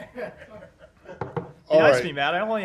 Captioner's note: laughter